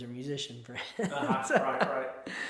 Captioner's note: chuckles